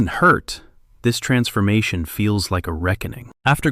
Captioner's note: thoughtful